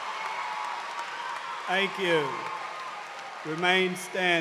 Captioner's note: cheers and applause